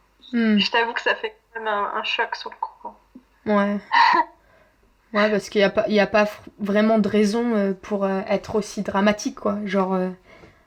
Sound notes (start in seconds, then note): 3.9 laughs